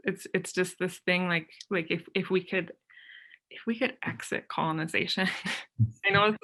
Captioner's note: chuckles